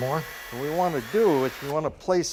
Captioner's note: screwdriver beeps and whirs